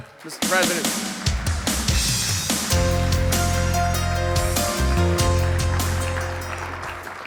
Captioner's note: people applauding; upbeat music